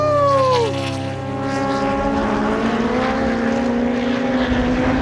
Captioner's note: engines growl